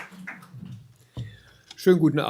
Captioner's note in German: applaus